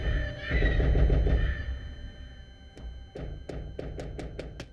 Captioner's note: banging on door